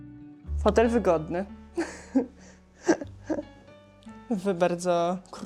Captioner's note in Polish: śmiech